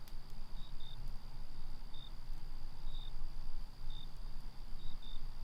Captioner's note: crickets chirping